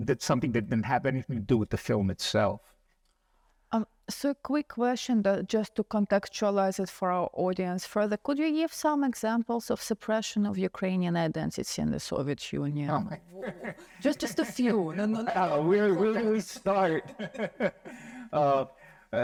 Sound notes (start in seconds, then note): 13.0 laughs; 17.1 laughing